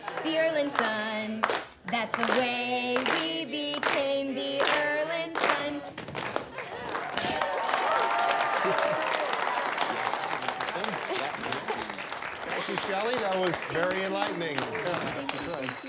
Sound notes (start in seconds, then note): 5.5 feet shuffling; 7.7 class cheers